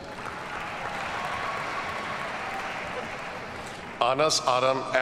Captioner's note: audience cheers and applauds